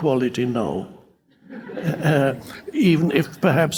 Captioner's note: audience laughing